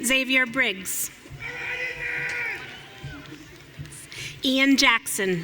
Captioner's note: audience cheering